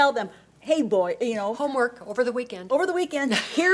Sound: laughs

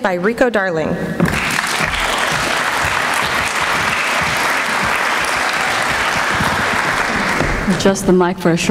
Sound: applause

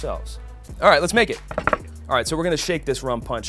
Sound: pounding

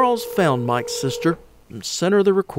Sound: phone ringing

